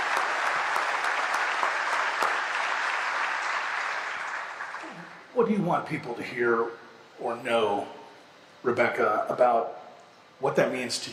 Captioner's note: applause